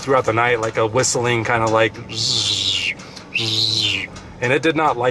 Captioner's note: humming and whistling